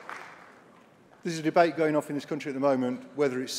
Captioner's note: applause